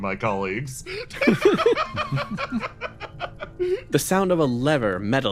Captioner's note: laughs